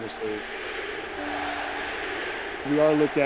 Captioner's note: crowd chanting